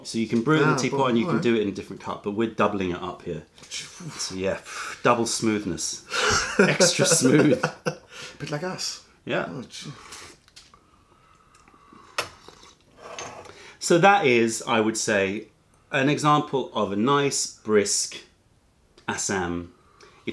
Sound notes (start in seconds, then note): 6.2 laughter